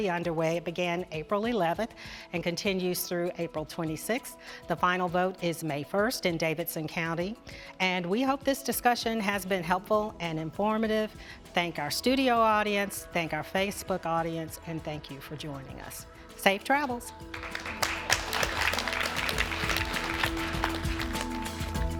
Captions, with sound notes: It began April 11th and continues through April 26th. The final vote is May 1st in Davidson county. And we hope this discussion has been helpful and informative. Thank our studio audience, thank our Facebook audience, and thank you for joining us. Safe travels. (applause) (electronic music)